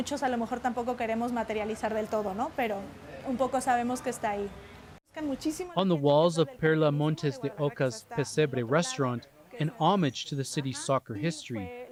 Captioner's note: speaking alternate language